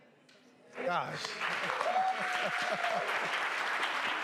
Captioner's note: cheering